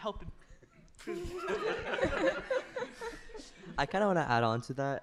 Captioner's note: laughter